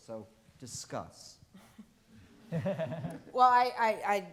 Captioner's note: all chuckling